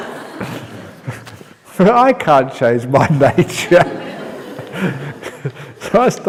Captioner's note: laughter